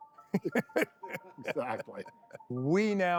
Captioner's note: laughter